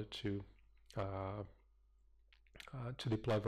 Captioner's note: pause